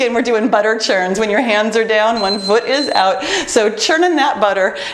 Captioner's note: timer beeps